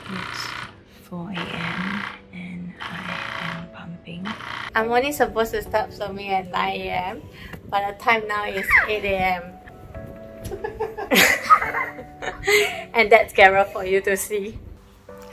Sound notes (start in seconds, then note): 8.5 squeals; 10.5 laughs